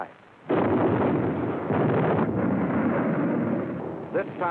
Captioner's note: explosions